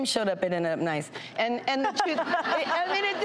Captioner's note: audience laughs